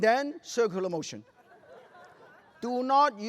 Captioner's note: laughter